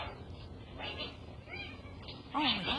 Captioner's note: cat yowling